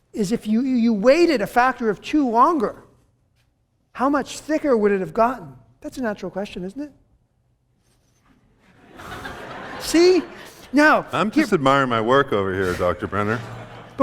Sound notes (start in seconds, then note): 8.6 laughter